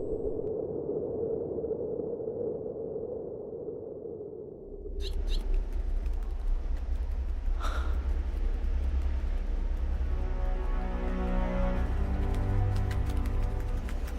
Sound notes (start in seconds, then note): 0.2 wind blowing; 4.9 bird chirps